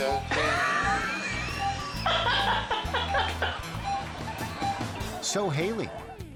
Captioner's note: machinery beeping; laughing